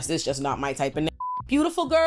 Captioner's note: beep